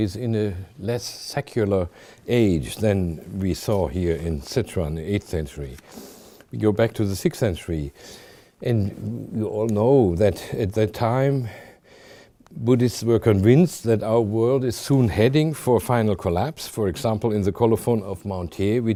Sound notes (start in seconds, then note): none